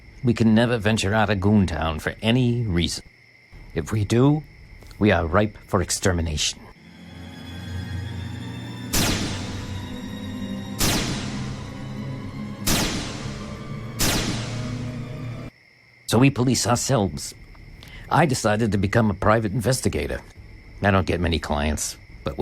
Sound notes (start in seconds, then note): 7.0 ominous music; 9.0 lasers zapping